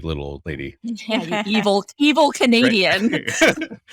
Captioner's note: laughing